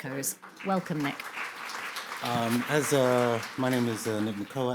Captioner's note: audience applauding